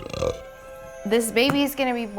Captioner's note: burp